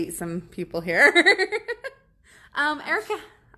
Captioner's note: laughs